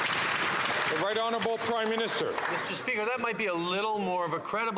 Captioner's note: some Applause